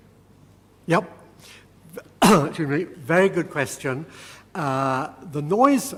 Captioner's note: cough